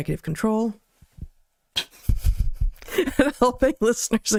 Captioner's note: laughs